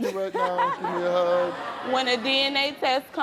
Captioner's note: laughs